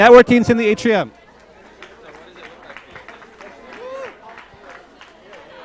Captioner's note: applause